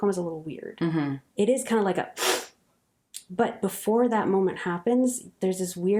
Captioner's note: sniff. Awaken look of shock